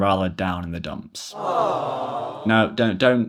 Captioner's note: audience gasping